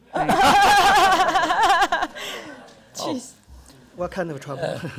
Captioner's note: audience, panel laughter